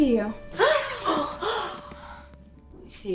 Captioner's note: gasps